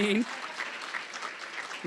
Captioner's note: applause